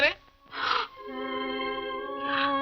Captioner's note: gasps